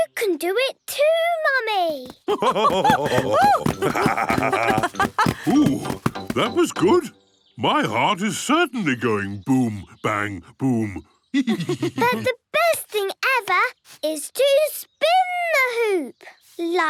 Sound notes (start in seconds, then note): 2.2 both laugh; 11.3 laughs